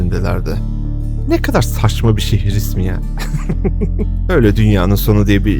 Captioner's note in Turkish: kahkaha